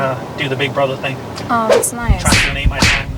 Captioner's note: whip cracking